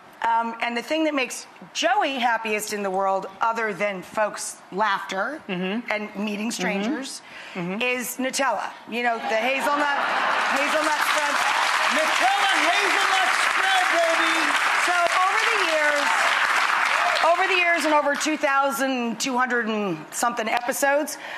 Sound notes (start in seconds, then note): 10.6 audience applause; 14.9 audience clapping